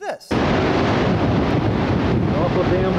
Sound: the rushing wind noise is now deafeningly loud

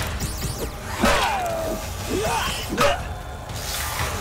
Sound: grunting

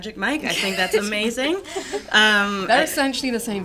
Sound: laughter

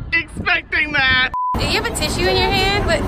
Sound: beep

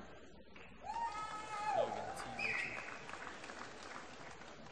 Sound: applause

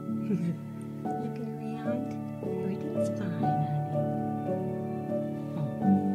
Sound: laughs; gentle piano music

